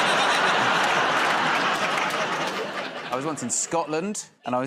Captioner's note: laughter